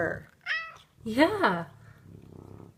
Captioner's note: cat meows